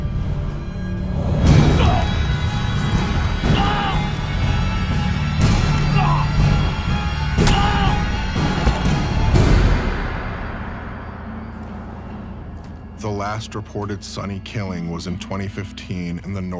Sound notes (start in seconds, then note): 1.6 groaning; 7.6 loud squish